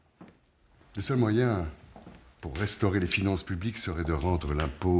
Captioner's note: Necker speaking in French